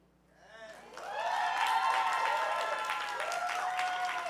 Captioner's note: audience cheering